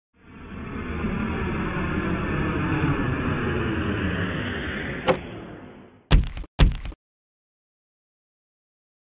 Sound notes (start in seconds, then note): 0.2 airplane landing; 6.1 suitcase dropping; 6.1 footsteps